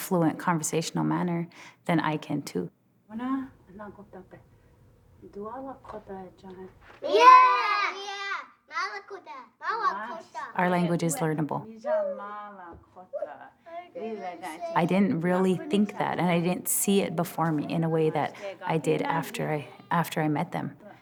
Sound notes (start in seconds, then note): 2.8 speaking Lakota; 7.0 children shouting; 8.2 children speaking Lakota